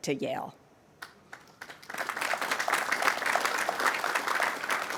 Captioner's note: audience applauding